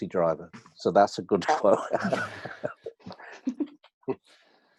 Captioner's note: laughs